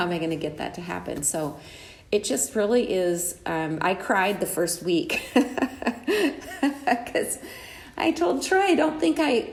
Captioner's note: laughs